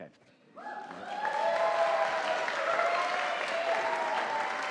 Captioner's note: audience applauding